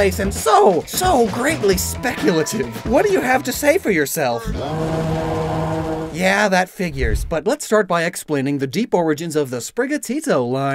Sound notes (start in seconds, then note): 4.4 roar